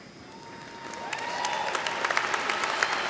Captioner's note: applause